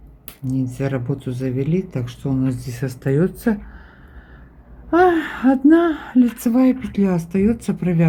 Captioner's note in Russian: вздыхает